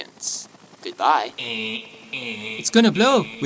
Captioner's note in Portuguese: Zumbido alarme